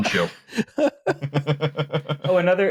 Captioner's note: laughter